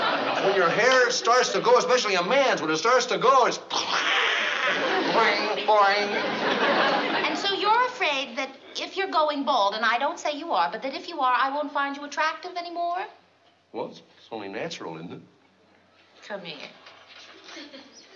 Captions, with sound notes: When your hair starts to go, especially a man's, when it starts to go, it's [IMITATES EXPLOSION],, boing, boing. And so you're afraid that if you're going bald-- and I don't say you are-- but that if you are, I won't find you attractive anymore? Well, it's only natural, isn't it? Come here.